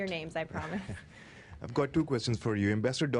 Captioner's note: laughter